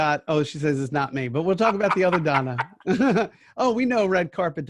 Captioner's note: laughs